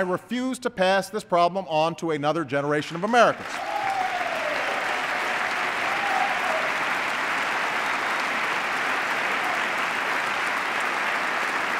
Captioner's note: applause